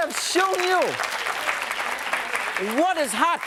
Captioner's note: crowd applauding